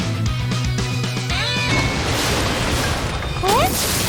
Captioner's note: crash!